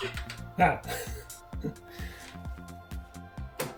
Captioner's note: laughs